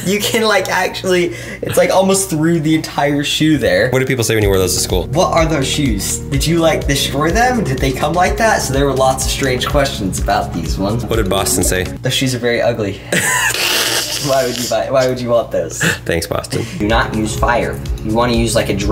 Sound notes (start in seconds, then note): 13.1 laughs